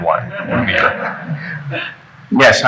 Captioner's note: laughing